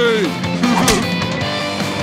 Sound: laughing

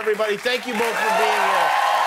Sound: cheers and applause

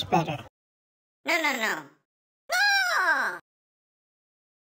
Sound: shrieks

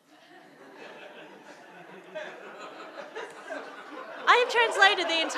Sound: audience laughing

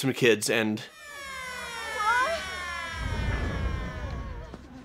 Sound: siren blaring

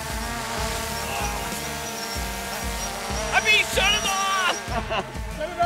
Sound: laughing

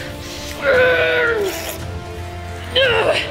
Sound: grunting; exclaiming

